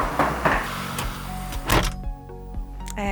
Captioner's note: trolley bag rolling; car door closing